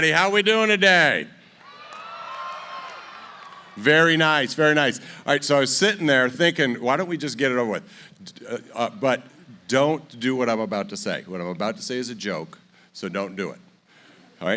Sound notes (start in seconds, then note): 1.5 cheering